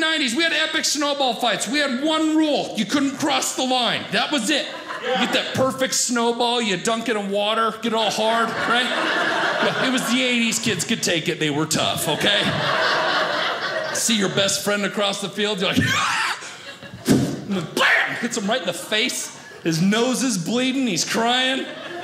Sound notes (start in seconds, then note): 8.3 audience laughing